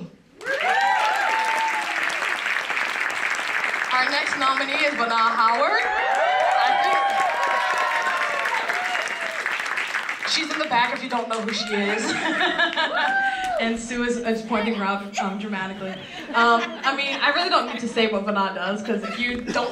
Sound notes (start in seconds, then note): 0.7 applause; 11.6 laugh